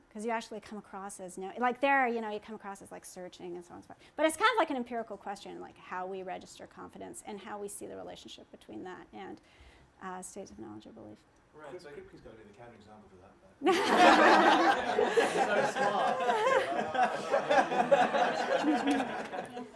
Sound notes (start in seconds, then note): 11.7 speaking from off mic; 13.6 laughter